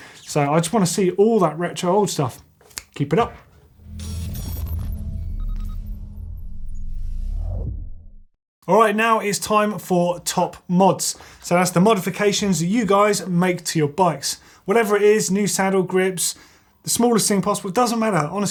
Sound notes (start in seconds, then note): 3.7 zooming and beeping